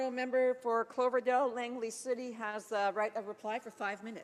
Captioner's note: speaking French